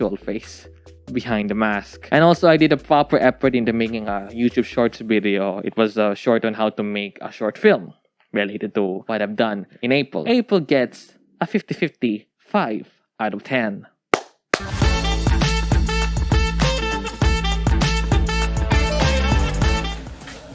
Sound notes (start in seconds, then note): 14.5 claps